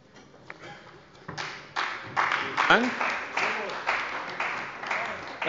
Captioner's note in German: Beifall bei der CDU